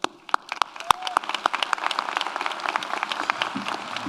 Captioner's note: audience applauds